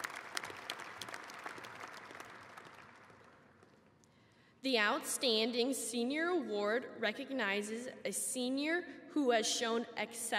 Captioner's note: applause